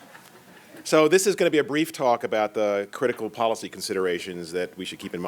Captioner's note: laughter